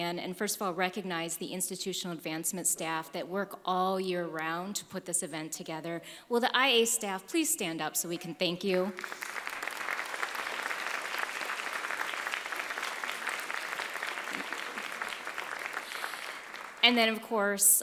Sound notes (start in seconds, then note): 8.8 applause